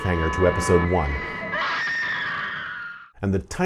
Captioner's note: scream